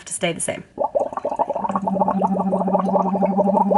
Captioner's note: bubbles